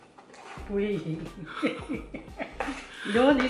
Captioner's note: laughs